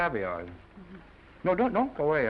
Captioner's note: Esther chuckles